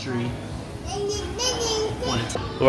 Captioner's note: baby talk